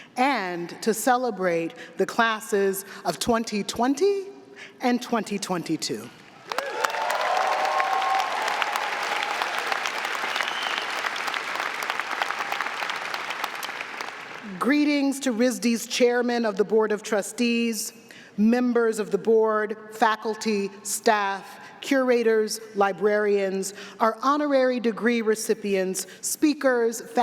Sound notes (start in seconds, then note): 6.4 audience clapping; 6.4 audience cheering